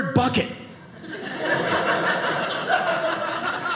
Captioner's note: audience laughing